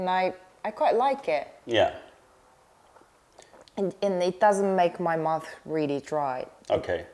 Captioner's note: sips tea